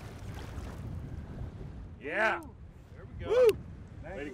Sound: fish splashing

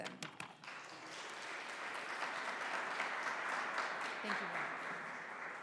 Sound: audience applauding

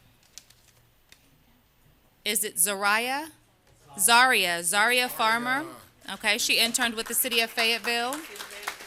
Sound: applause

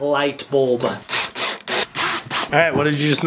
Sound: power tools

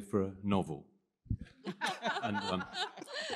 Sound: laughter

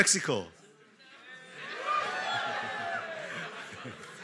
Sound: cheering

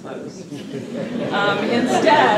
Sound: laughter

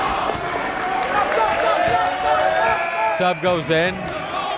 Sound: players and coaches bustling

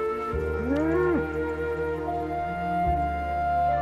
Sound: cow grunts

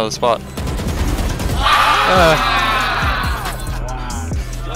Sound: guns firing

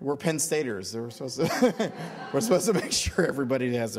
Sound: audience laughter

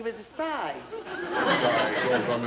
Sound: audience laughing

